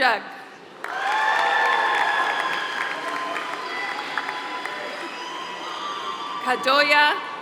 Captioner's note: applause